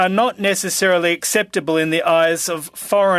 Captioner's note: speaking french